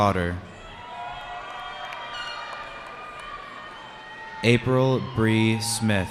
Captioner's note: cheering